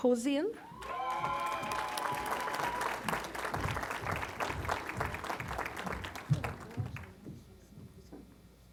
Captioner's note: applause